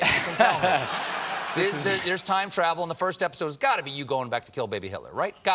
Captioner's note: laughter